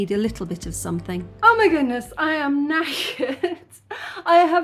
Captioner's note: laughing